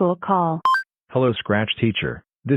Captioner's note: ring sounds